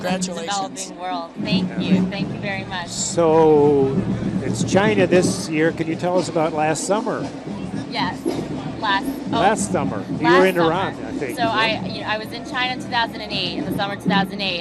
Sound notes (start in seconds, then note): none